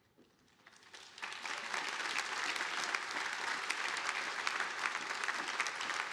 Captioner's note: audience applauding